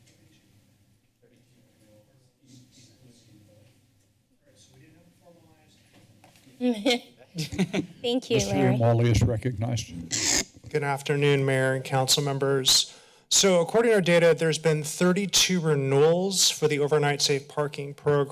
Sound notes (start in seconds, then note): 7.3 laughter